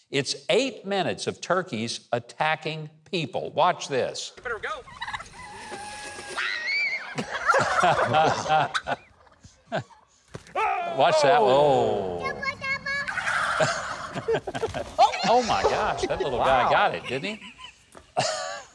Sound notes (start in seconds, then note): 5.6 turkey gobbles; 6.2 child screams; 7.2 Mike laughs; 10.5 man screams; 13.5 Mike laughs